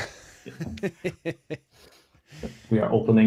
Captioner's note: laughter